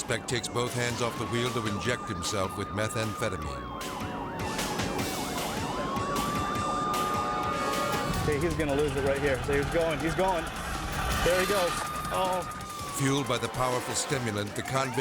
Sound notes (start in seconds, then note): 3.8 sirens wailing; 11.4 rim scraping